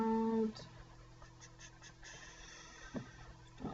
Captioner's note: puffing sounds